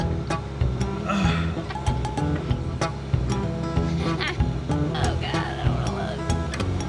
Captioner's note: grunts